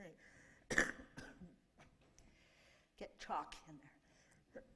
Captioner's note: coughing; coughing